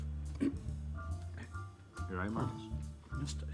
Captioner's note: clearing throat